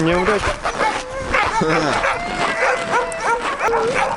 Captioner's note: uncertain laughter